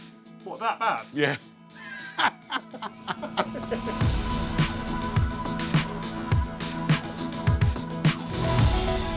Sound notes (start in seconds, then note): 1.8 laughs; 4.1 upbeat music playing